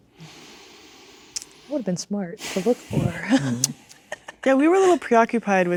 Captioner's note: laughing